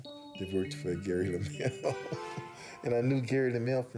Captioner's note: laughing